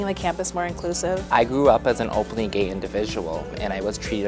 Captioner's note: voiceover